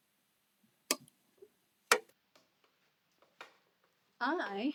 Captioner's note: switch clatters